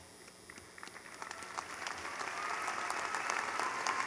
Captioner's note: clapping